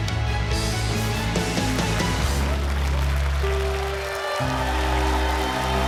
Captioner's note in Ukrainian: оплески